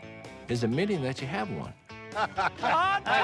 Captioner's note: laughter